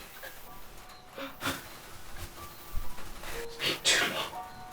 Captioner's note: Carrie's breath shudders